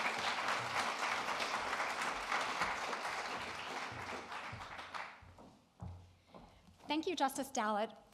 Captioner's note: applause